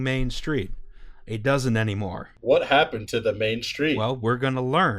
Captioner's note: insincerely